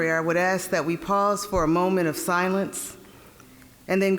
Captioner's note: none